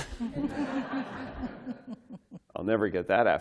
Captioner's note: laughter